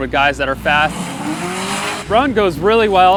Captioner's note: car engines roar